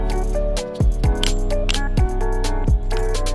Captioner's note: click in place sound